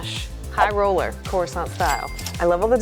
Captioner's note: cash register chimes